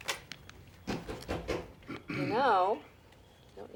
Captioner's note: knocking at door